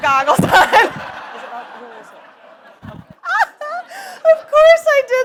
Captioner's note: audience laughs